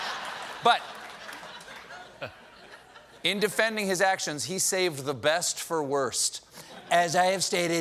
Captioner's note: laughter